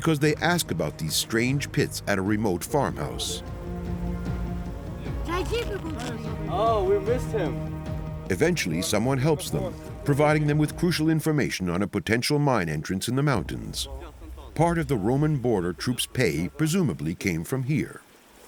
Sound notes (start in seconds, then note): 5.2 woman speaking Serbian